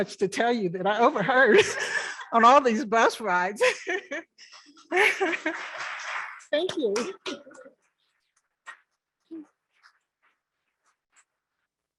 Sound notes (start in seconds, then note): 3.6 laughing; 5.2 members clapping